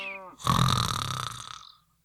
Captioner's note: snore